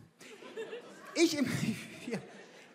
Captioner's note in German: Gelächter